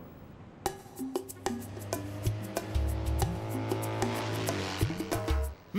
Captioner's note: cars speeding